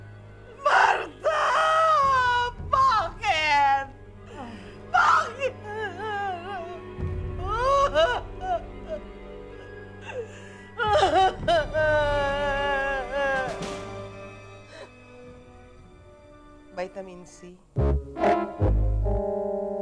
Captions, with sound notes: Martha, why?! Why? [crying] [crying stops] Vitamin C? [whimsical music playing]